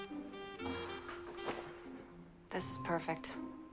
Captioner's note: sighs